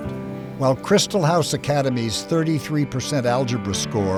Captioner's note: voiceover